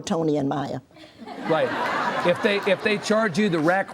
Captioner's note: audience laughs